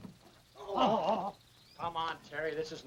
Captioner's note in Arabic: يئن